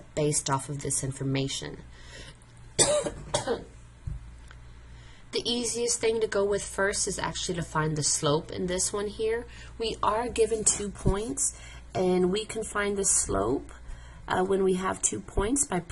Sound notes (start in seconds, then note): 2.7 coughing